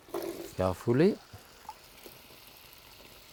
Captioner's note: pan sizzling